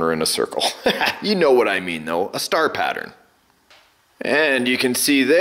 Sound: laughs

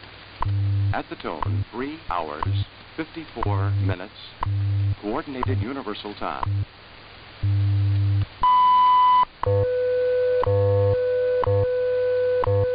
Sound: wwv radio sound playing

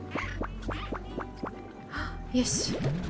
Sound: gasp

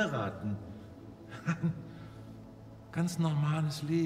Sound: chuckles

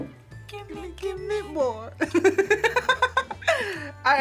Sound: React laughs

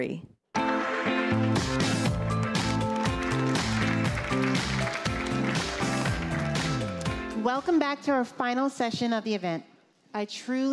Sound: applause

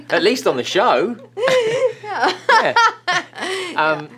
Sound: laughing

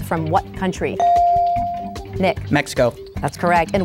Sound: bell dinging

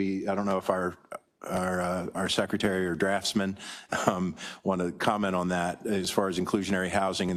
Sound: laugh

